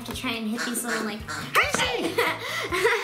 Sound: duck quacks

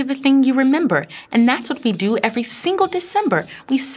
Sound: snare beatboxing

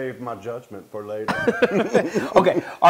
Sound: laugh

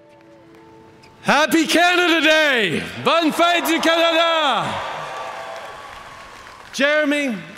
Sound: cheering

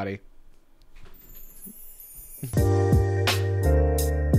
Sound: magic chiming; relaxing music

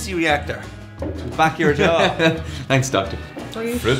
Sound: laughs

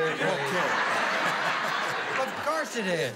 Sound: laughter

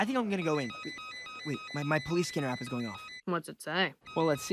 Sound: cell phone beeping

